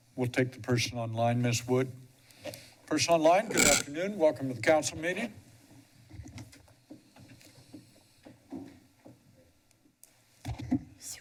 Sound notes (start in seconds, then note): 2.0 pause